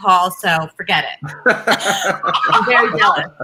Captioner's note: laughing